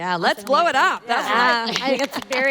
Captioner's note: panel members applauding